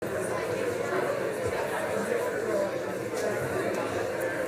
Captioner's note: crowd chatter